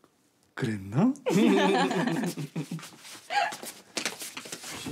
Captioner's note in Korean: 웃음소리